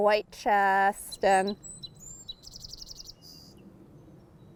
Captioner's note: bird chirping